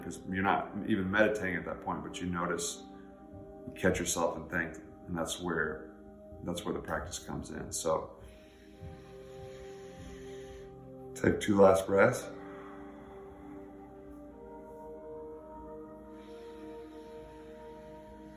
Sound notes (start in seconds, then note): 8.2 gentle music; 8.2 breathing deeply; 13.3 gentle music